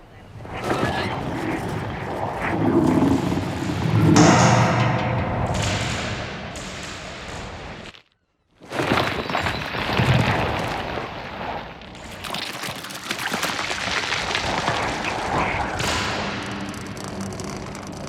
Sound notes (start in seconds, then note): 0.5 rustling; 4.7 wires rippling; 8.7 crunching